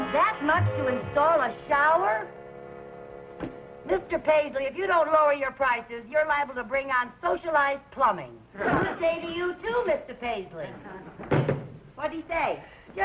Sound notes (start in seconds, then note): 7.9 audience laughing